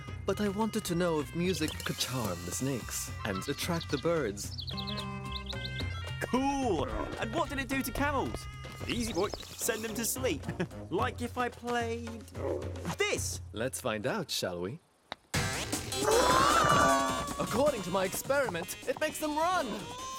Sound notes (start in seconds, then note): 10.4 chuckling; 16.2 rhythmic music